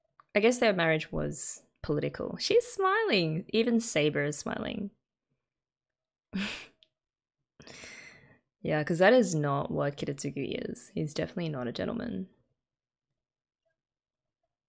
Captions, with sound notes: I guess their marriage was political. She's smiling! Even Saber is smiling. [chuckles] Yeah, because that is not what Kiritsugu is. He's definitely not a gentleman.